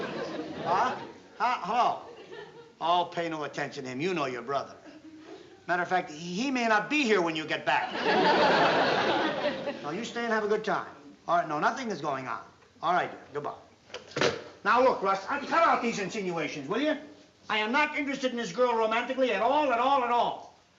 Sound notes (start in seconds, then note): 7.8 laughter